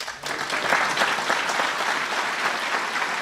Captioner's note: applause